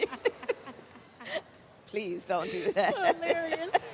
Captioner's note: laughter